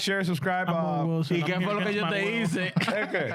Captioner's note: speaking In Foreign Language